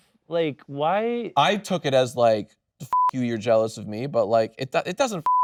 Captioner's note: beep